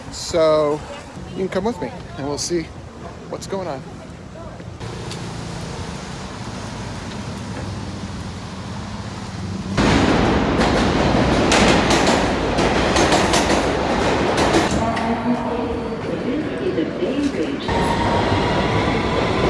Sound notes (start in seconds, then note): 9.8 train rumbling